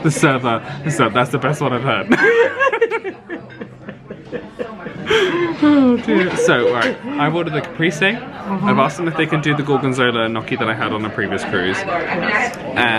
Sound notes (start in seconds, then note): 1.9 they laugh